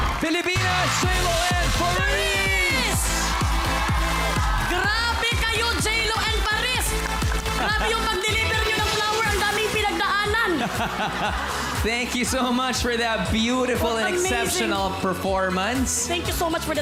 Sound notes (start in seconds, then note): 3.1 upbeat music playing; 7.7 robi chuckles; 10.9 crowd laughs